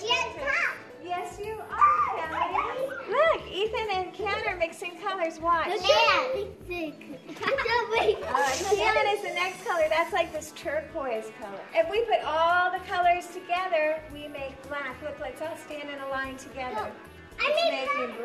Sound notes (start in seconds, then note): 6.8 giggling